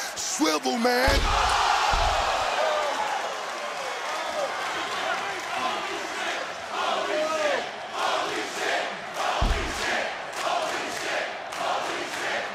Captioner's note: crowd chants "holy --"